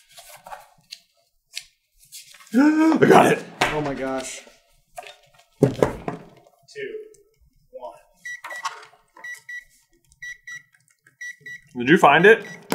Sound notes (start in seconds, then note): 2.5 gaaaaaaaaasp; 8.2 gentle beeping